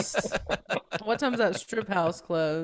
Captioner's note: all laughing